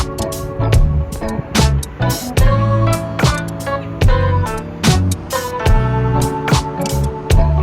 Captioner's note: laughing